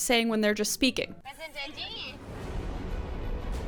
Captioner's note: show contestant speaking in German; intense music